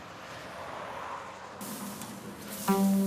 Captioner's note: sizzling